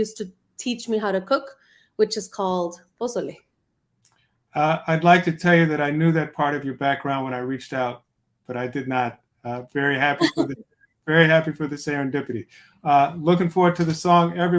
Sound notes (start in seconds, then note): 10.2 chuckles